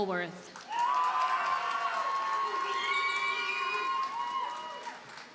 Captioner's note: audience cheers and applauds